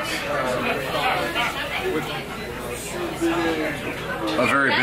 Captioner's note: loud chatter